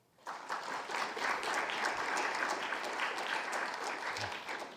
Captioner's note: audience applause